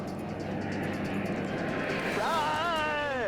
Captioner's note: tense music; aircraft whooshing